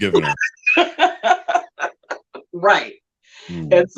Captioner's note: laughing